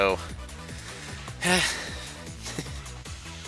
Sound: breathing

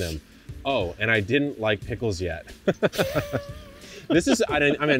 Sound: laughs

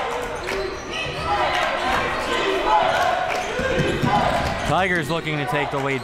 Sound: crowd

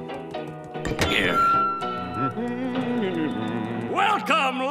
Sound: humming

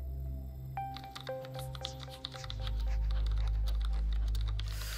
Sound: keyboard typing

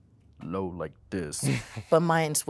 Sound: voice deep

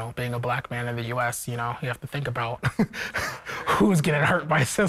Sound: laughs

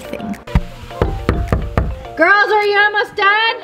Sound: door knocking

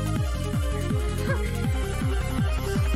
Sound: laughing

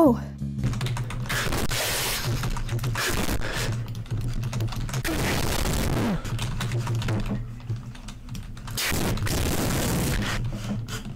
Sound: aggressive keyboard noises

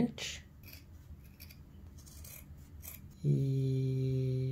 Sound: sound of scissors

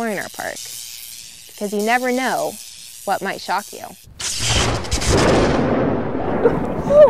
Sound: electricity and thunder

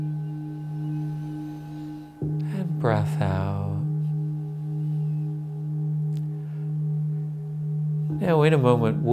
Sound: breathes in

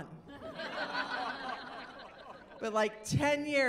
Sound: laughing

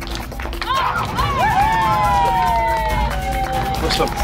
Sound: cheering

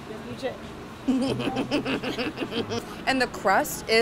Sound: snickering

